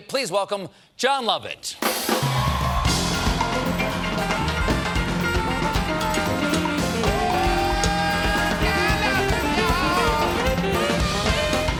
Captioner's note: applause; cheers and applause